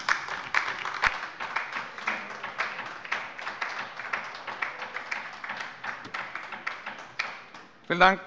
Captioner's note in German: Beifall bei der LINKEN